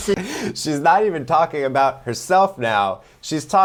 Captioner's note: gasps